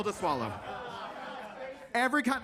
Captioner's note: attendees laughing; attendees faintly speaking